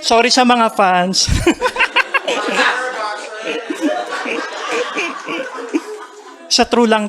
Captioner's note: laughter and murmurs